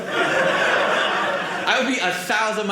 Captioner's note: audience laughing